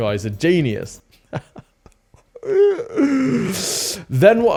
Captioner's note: laughs